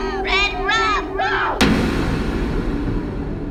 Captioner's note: scream